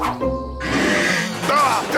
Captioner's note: wood creaking; Shawm groans; bird squawks